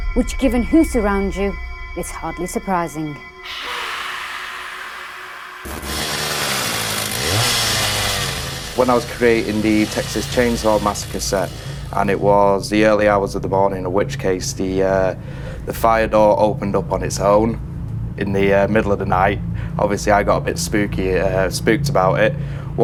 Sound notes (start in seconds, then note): 3.4 screaming; 5.2 chainsaw revving